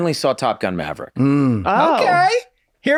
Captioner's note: Rob grunts